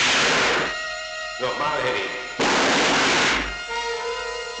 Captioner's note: gun fires; gun fires